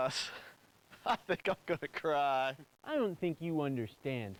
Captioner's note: laughs